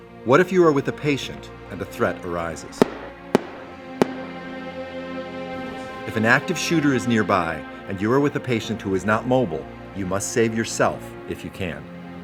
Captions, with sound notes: What if you were with a patient and the threat arises. (gunshots) If an active shooter is nearby and you were with a patient who is not mobile, you must save yourself if you can.